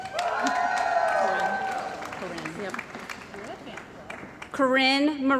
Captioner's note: cheering & Applause